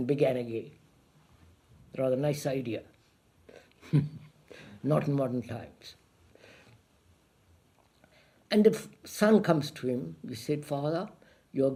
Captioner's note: laughs